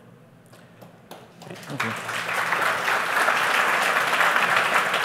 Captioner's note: applause